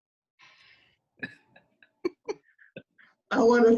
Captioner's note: group laughs